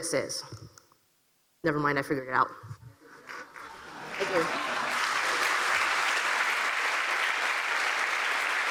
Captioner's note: applause and laughter